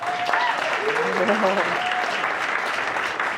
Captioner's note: audience applauds